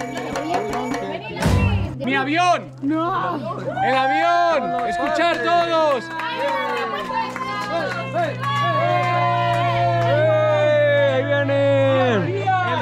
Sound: applause

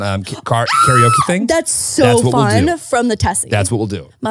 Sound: screaming

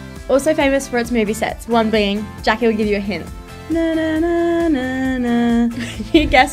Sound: humming

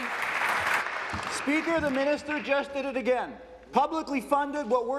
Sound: applause

